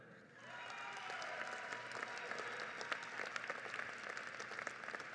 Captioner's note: audience applauds